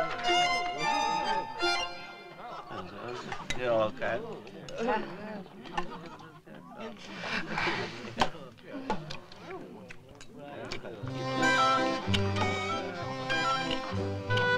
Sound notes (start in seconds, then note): 4.7 guests murmur; 11.0 playful music